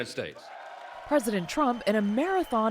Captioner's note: cheering